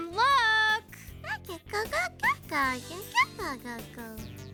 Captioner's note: babbling